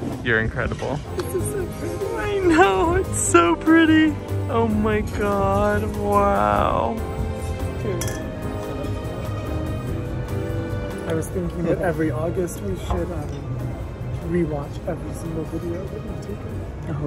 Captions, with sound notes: You're incredible. - This is so pretty. - I know. It's so pretty. Oh, my God. Wow. Cheers. (glasses chink) (upbeat music) - I was thinking that every August we should rewatch every single video that we do here.